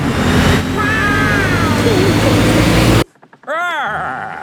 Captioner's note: laughing